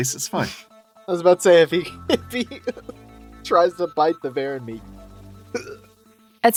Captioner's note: laughs